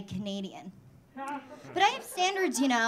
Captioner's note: audience laughing